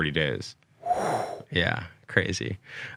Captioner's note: exhales loudly